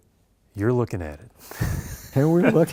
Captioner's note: laughter